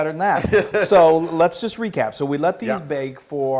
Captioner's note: laugh